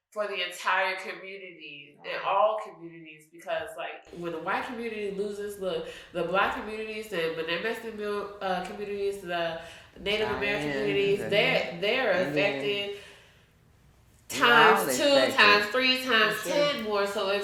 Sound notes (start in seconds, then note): 11.6 speaking faintly